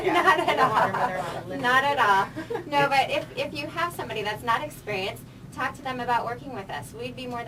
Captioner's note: laughing